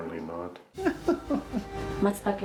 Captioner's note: laughing